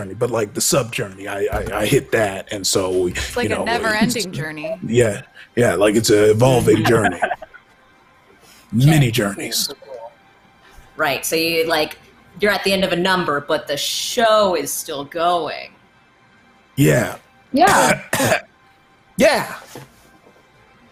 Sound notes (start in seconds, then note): 17.6 coughs